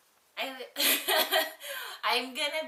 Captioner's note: laughs